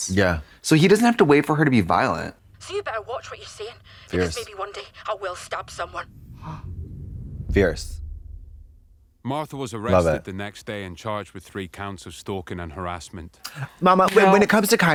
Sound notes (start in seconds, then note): 6.3 Trixie gasps